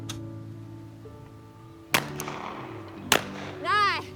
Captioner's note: rifle banging